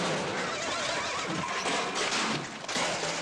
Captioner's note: horse neighs; loud metallic banging